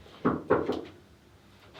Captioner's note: Ryan knocks on door